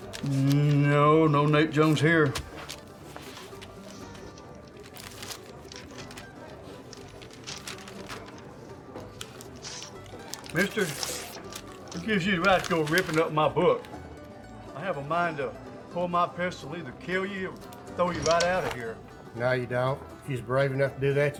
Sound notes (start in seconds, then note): 0.0 melodic piano music; 0.0 pages rustling; 4.7 pages rustling; 9.1 page tearing